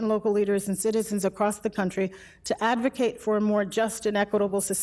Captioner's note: none